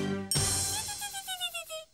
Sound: Tizzy buzzing

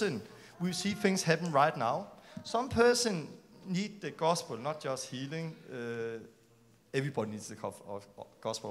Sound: click

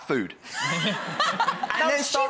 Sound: audience laughs

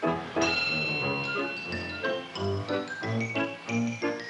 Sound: bell ringing

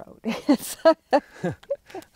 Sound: both laughing

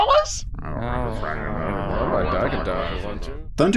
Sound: grumble grumble

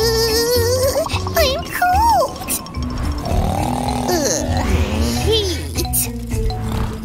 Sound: snoring

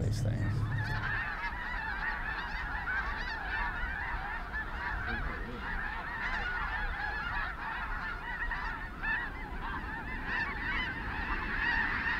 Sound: geese squawking

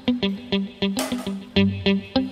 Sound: utensil sond

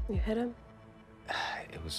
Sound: sighs

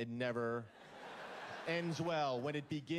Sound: laughter

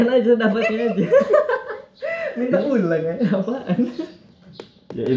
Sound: laughing

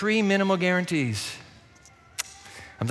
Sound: clicks tongue

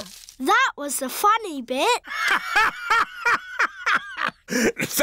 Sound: laughs

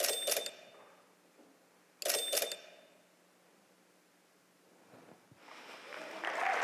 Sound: audience applauding and cheering

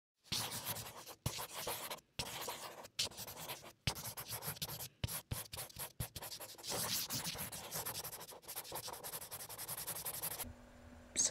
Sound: writing with marker sound effect

